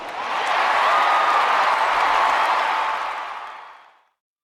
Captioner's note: applause